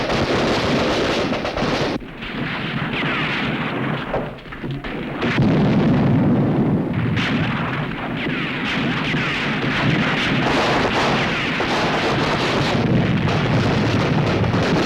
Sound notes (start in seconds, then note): 4.8 explosion; 6.8 gunshots